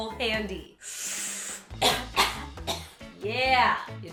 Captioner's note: inhales deeply and coughs